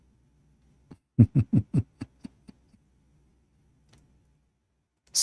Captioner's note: Ketawa